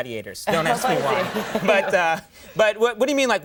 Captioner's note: audience laughing